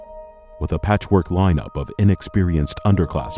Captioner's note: voiceover